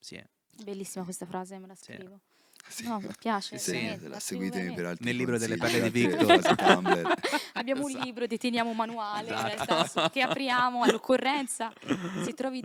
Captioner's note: laughing